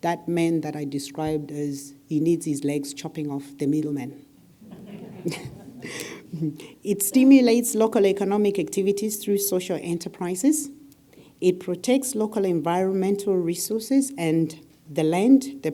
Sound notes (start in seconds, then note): 4.6 laugh